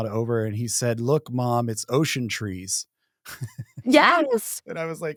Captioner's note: chuckles